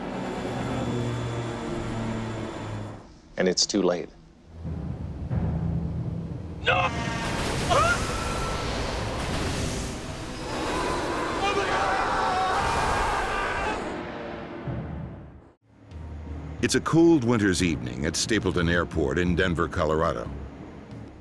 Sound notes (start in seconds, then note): 0.0 engines throbbing; 13.9 pilot yelling; 16.7 voiceover